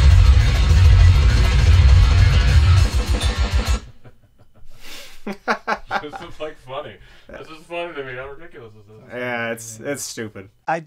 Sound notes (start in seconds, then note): 3.8 laughs